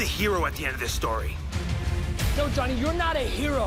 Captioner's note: none